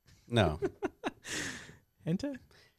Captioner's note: laughs